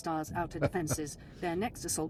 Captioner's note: laughter